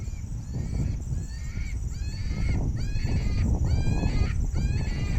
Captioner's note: high pitched squealing